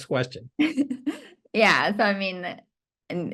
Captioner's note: laugh